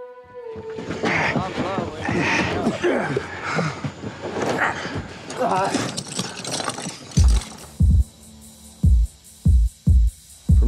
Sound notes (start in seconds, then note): 1.0 grunts; 5.1 chains clanging